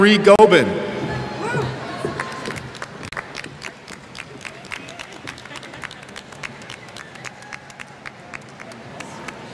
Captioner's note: applause